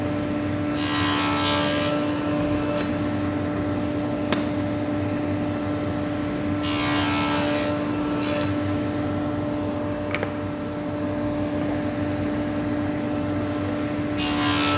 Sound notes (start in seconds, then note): 0.4 repeated machine buzzing